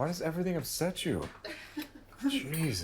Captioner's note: chuckles